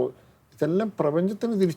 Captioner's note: none